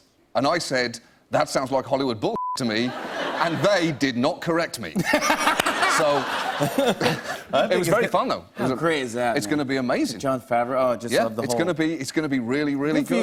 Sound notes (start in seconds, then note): 4.9 laughter